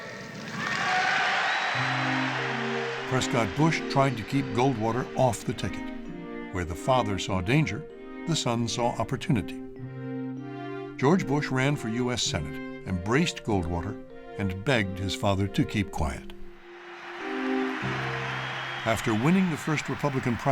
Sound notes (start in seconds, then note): 0.0 audience cheers and applauds; 16.6 crowd cheering